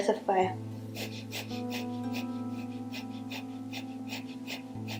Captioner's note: heavy breathing